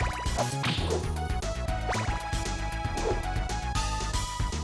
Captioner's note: whip slashes